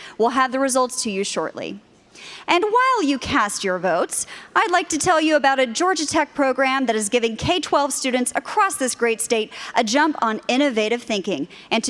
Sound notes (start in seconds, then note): none